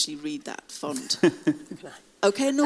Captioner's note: laughing